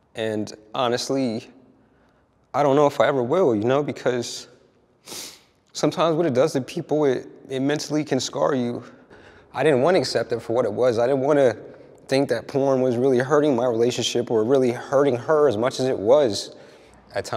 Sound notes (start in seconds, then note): 5.1 sniffs